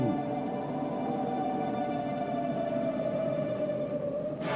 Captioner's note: wind howling